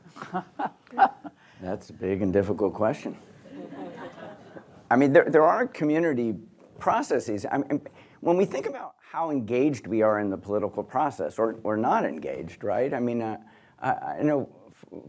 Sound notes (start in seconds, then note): 0.0 chuckles; 3.5 audience chuckles